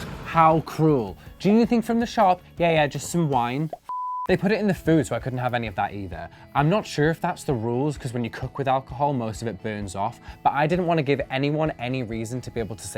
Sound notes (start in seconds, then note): 3.7 beep